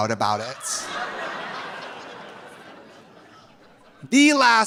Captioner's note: audience laughing